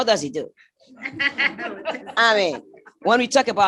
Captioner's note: laughter